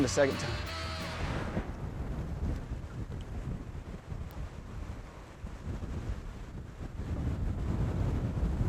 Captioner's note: wind blowing